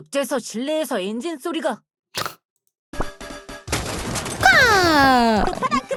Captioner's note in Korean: 콧방귀